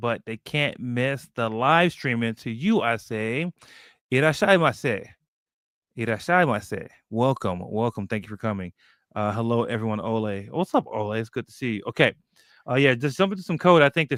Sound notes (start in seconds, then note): 4.5 speaking japanese